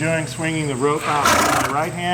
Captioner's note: horse snorting